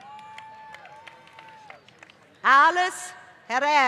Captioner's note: applause